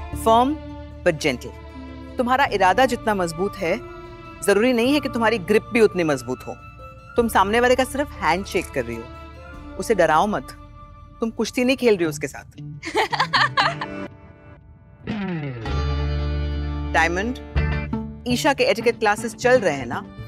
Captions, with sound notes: Firm but gentle. Your grip need not be as strong as your intentions. You just need to shake the hand of the person. Don't scare him. You don't have to wrestle with him. [laughing] Diamond. Are Isha's etiquette classes going on?